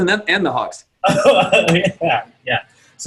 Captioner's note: laughs